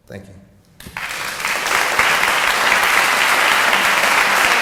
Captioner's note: audience applauding